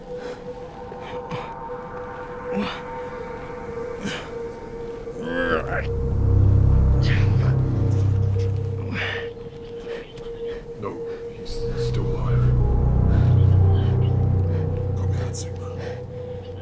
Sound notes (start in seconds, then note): 1.7 Jaymee grunting